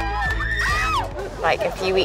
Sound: screams and laughter

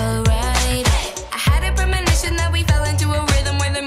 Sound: hands clapping

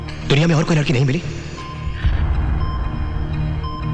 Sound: none

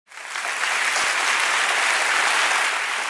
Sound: applause

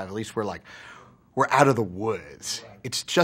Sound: sighs

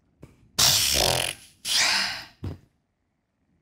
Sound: Evelyn pbbbths

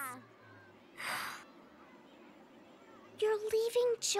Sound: none

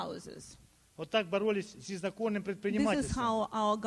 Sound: speaking Russian

